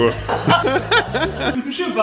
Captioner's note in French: rire